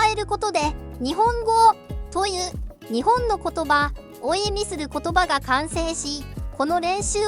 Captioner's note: Japanese language